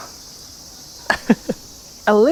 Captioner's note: chuckles